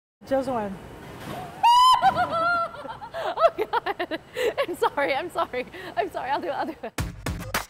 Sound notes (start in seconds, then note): 1.6 screams; 1.9 laughs